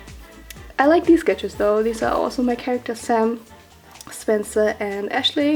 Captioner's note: none